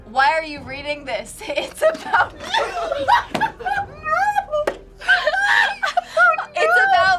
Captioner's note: laughs